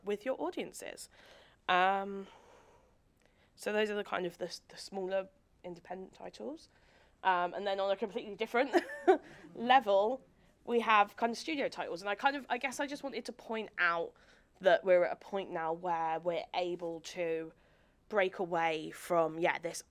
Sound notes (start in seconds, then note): 8.7 chuckles